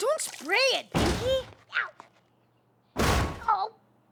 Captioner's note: thud!